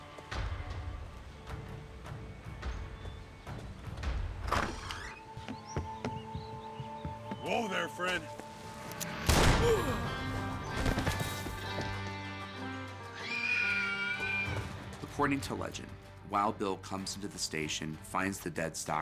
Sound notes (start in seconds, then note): 4.0 door opens; 9.2 gunshot; 13.2 screaming